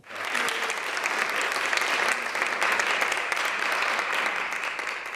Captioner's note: audience clapping